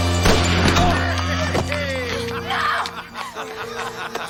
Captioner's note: Harry laughing